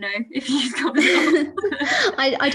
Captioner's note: laughter